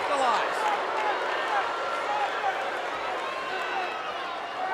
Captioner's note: crowd booing